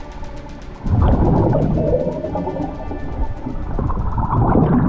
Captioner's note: water gurgling continues